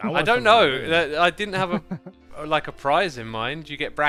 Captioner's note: laughs